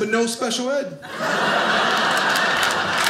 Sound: audience laughing; audience clapping

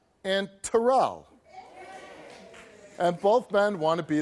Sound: faint cheering

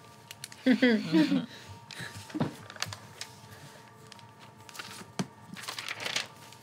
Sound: slow ambient music; group laughs

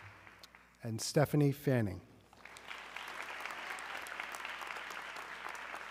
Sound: audience clapping

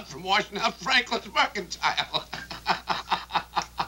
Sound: laughing

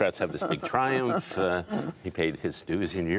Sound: laughter

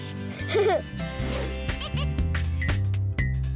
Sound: laughs

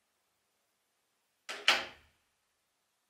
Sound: door shuts

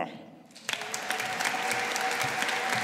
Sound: audience applauding

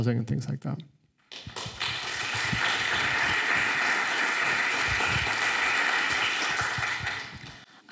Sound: applause

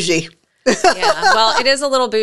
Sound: laughs

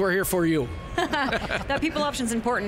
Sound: panelists laughing

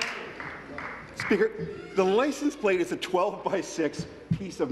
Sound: applause

